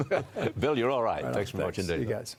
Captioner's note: laughter